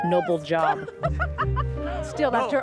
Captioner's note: laughs